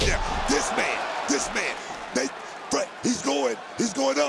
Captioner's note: crowd cheers